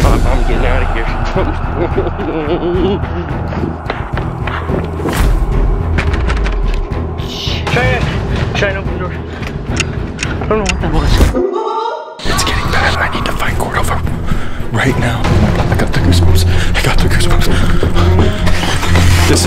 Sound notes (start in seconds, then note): 1.4 sobbing